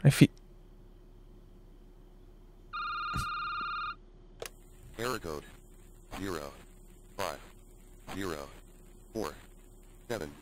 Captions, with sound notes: I feel- (phone ringing) - Error code zero, five, zero, four, seven, seven